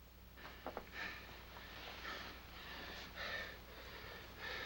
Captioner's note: heavy breathing